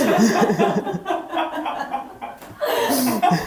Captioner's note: laughing